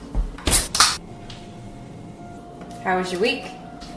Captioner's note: drink tab pops